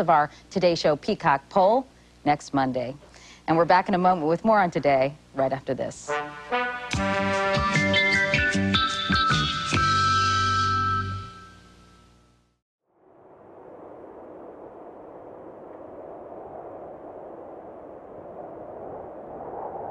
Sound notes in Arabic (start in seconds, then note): 6.2 موسيقى درامية متفائلة; 12.9 عواء الريح